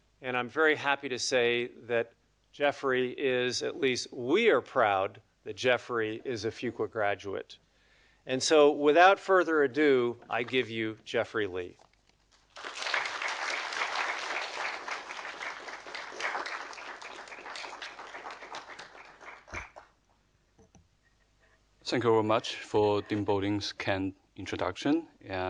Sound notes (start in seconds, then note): 12.4 audience applauding